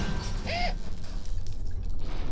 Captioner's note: A tumbling crash of debris; gasp